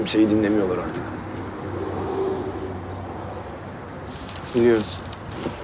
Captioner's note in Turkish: Trafik sesi